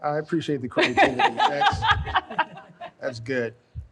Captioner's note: laughs